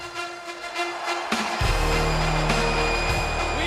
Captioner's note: audience cheering and clapping; upbeat music